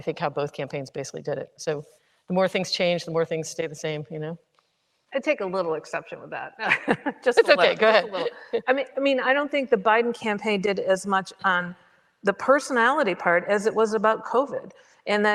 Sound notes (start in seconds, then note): 6.7 chuckles